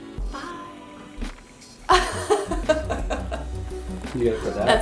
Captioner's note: light laughing